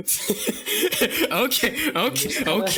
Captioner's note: chuckles; chuckling